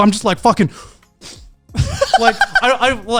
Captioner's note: huffing